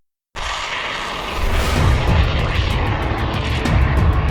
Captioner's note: missile sound